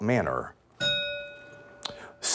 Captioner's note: bell ringing